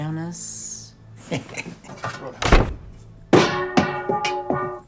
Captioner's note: chuckles